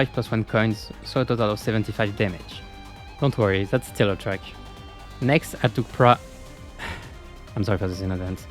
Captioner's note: sigh